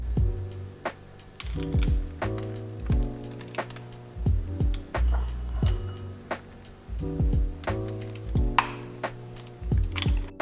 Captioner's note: peanuts falling soothingly